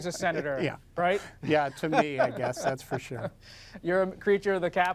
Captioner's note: laughs